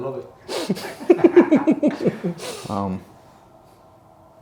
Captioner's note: all laugh